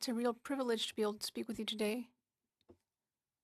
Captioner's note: speaking French